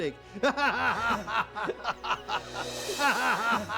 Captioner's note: laughing